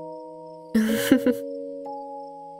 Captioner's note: chuckles